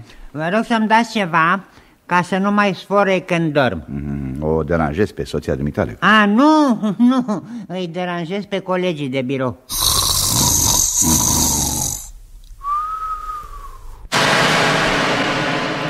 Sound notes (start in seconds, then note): 9.7 snoring